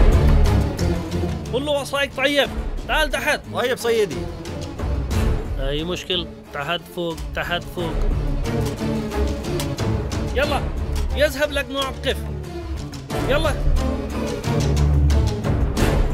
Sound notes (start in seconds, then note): 1.4 Speaking in Arabic; 10.3 Speaking in Arabic